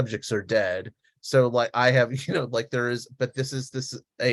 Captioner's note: laughs